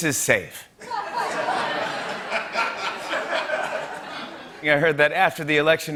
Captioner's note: laughter